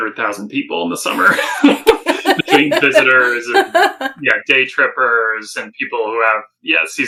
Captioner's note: laughing